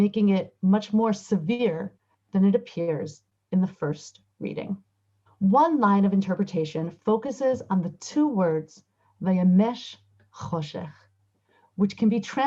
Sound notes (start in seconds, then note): 9.7 Hebrew